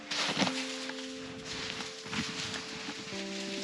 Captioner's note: snow crunching